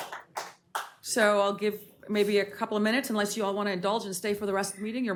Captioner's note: applause